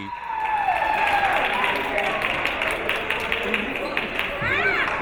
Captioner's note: audience applauding